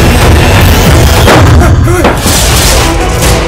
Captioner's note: Thud on the floor